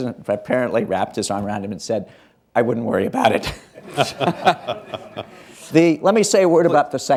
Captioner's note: laughs, laughter